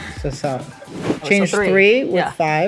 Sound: air whooshing

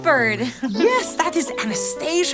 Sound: laughter

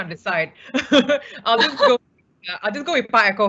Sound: laughing; laughs

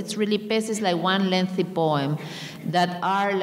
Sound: speaking in a foreign language

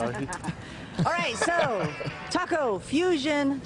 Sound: laughter

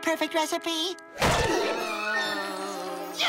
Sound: moaning; screaming

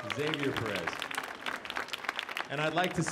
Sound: audience applauding

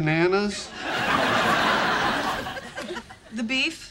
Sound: audience laughing

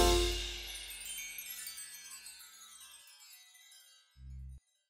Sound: chimes tinkling

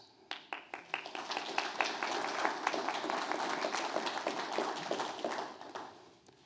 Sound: applause

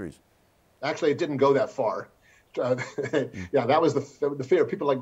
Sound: chuckles

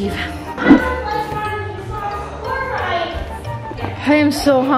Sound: kids chattering

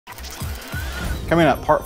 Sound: machine whirring

